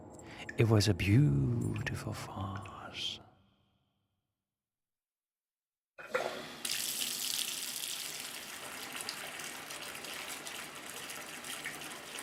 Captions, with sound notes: It was a beautiful farce. [faucet opened and water running]